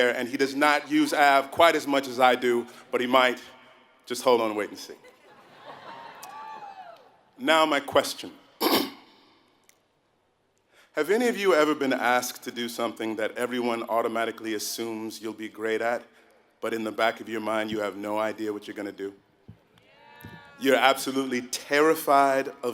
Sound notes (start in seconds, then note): 5.1 laugh; 8.6 cough